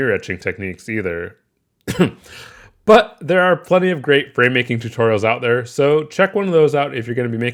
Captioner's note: cough